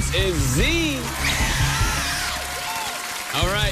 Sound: cheers and applause

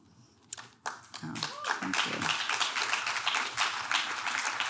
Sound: audience claps

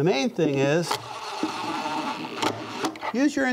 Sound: hand drill whirling

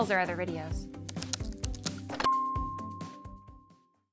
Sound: keyboard clicking; logo chiming

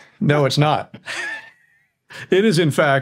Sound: chuckling

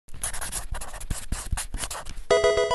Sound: marker scratching; electronic video game chime

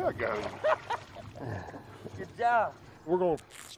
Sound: laughs

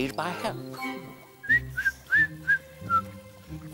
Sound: whistling

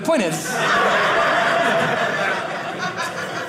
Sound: audience laughing

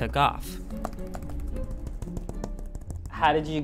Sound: fingers tapping palette

